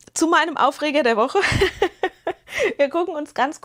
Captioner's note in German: gelächter